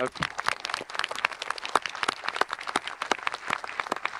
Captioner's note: audience applauding